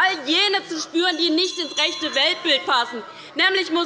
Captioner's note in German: Unruhe - Glockenzeichen des Präsidenten